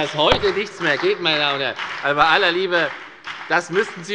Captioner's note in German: Beifall bei der FDP und der SPD